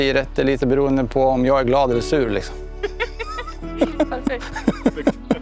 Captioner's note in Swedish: Laughter